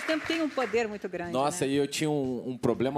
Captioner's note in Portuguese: aplausos